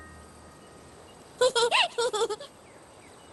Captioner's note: giggling